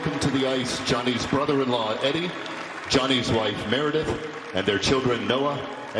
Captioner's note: applause